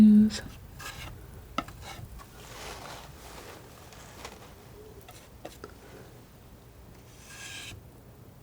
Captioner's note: tapping